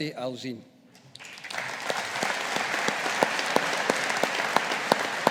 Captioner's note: audience applauding